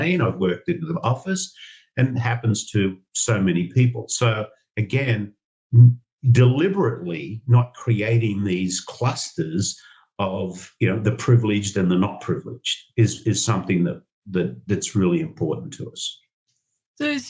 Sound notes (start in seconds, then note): none